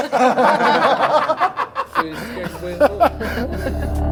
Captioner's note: general laughter